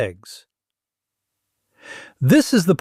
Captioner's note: pause